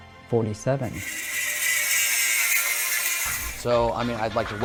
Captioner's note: welding tool sizzling